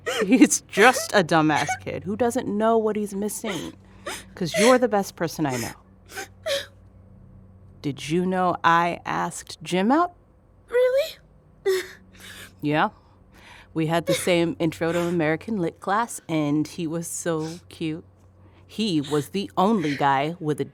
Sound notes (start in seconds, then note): 5.4 as Tonya continues sobbing